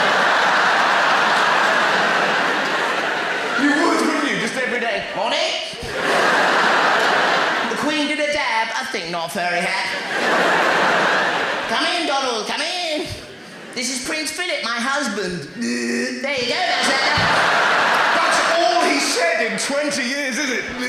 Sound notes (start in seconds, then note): 15.6 groaning noise